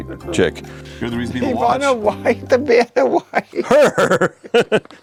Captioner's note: laughs